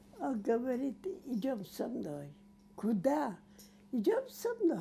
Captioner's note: none